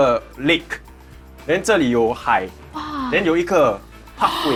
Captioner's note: wah